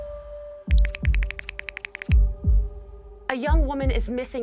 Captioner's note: tense music; keys clacking